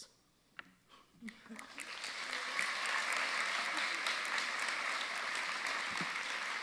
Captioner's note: audience cheering and applauding